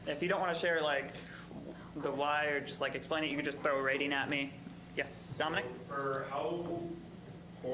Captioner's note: none